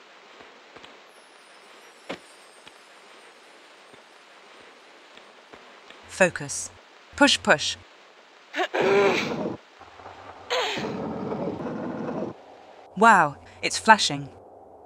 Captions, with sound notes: Focus... Push Push! *grunting hard* Wow, it's flashing!